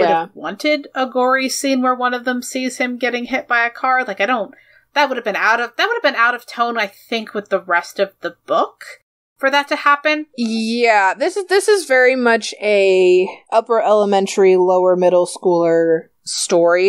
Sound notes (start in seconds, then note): none